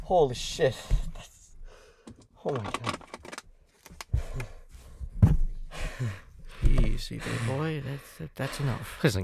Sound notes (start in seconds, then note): 1.6 catching his breath